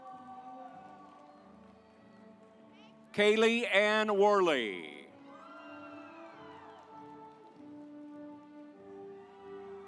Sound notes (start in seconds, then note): 0.5 stately music; 5.7 audience applauds; 7.1 stately music